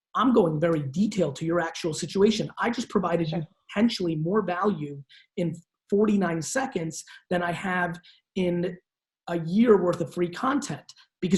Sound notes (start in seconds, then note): none